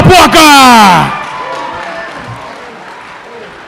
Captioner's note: cheering